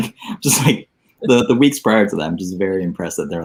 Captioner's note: laughing